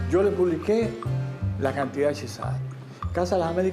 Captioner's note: speaking Spanish